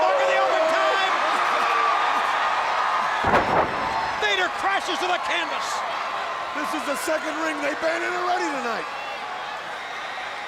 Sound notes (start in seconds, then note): 1.8 crowd cheering; 3.2 body thuds